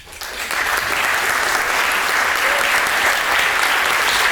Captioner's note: applause